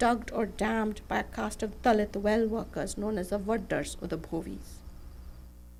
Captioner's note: non-english speech